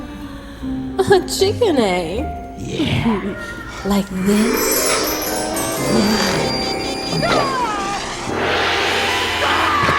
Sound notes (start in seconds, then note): 4.7 screaming